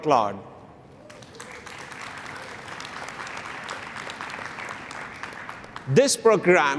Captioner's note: applause